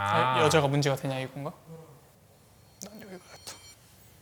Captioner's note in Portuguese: Respira pesadamente; sussurra